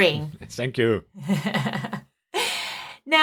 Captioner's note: laughing